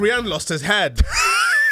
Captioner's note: wheeze